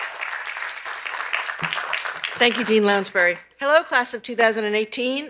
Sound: cheers and applause

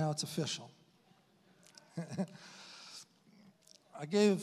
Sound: chuckles

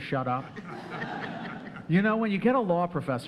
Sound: audience laughing

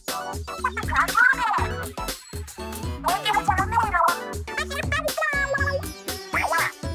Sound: Shiver, Frye, and Big Man all speaking in squid language

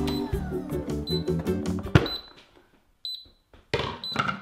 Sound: machine beeping

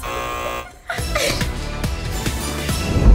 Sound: buzz

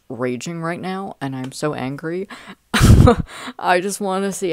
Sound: laughter

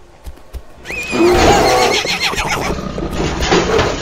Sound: neighs; bear hits bars

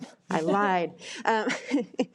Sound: laughs

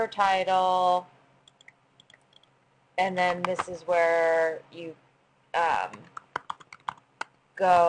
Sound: pause; typing sounds

